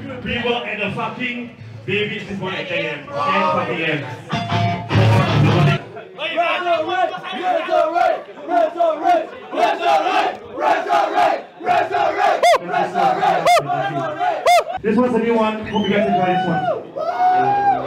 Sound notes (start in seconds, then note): 6.9 crowd chanting